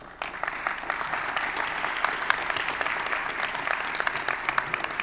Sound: audience applauding

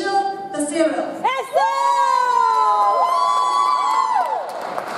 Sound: cheers; audience applauds

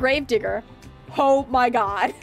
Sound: laugh

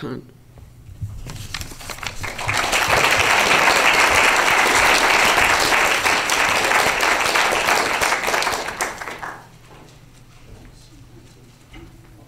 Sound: applause

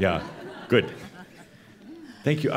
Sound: more chuckles

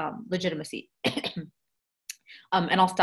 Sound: coughing

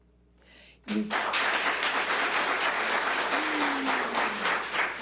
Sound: public applauding

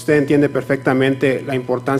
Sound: speaking foreign language

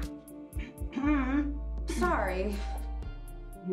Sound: clears throat

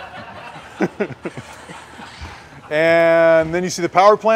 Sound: laughter

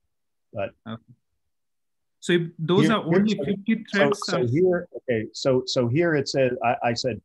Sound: calm Voice

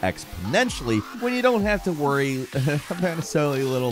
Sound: chuckles

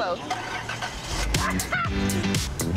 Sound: engine turning; upbeat music continues; laughing

